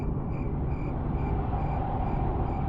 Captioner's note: none